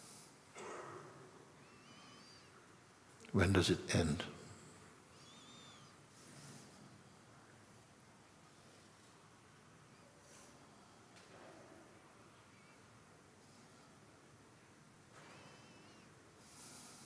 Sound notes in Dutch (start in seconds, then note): 9.6 stilte